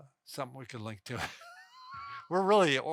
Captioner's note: chuckles